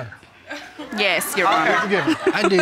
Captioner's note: crowd laughing